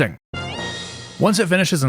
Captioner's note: whimsical sound effect